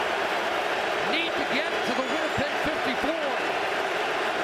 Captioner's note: cheering and Applause